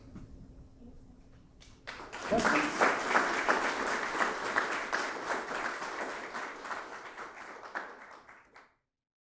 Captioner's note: applause